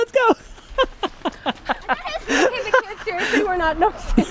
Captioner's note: laughing